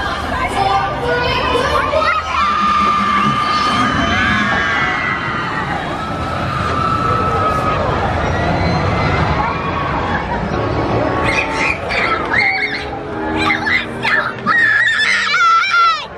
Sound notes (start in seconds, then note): 1.8 screaming anxiously